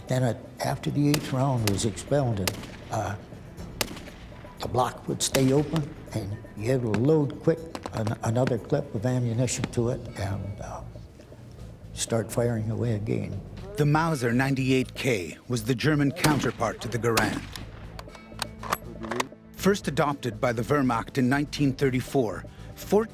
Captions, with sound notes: the block would stay open and you had to load quick another clip of ammunition to it and start firing away again. - [Voiceover] The Mauser 98K was the German counterpart to the Garand. First adopted by the Wehrmacht in 1934, 14 million Mausers were used by the German army.